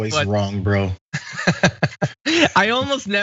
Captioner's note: laugh